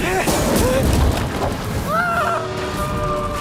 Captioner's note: scream fades